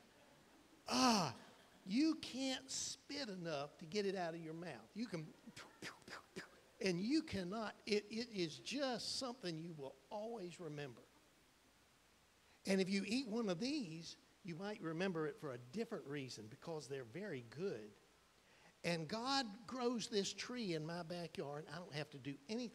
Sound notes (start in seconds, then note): 5.5 fake spitting